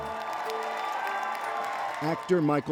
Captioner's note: chowd cheers